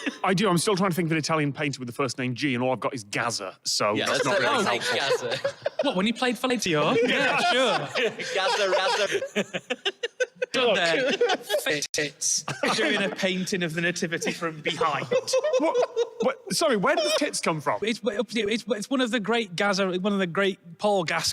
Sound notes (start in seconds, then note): 0.0 laughs; 4.1 laughing; 9.4 giggles